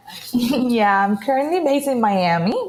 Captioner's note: laughs